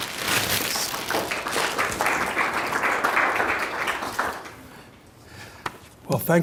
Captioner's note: audience applauding